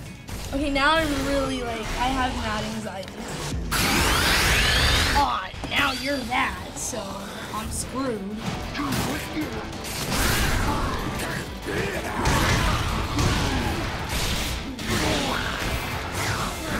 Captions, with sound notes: Okay, now I'm really, like-- I have mad anxiety. (Garchomp snarls) - Aw, now you're mad, so I'm screwed. (both Pokémon growl)